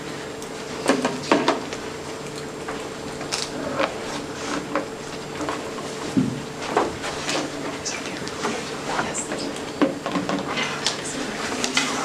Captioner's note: indistinct conversation